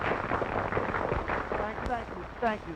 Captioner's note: applause